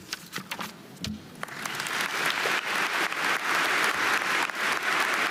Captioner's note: audience applauding